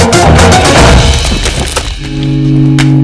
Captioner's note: Bed cracking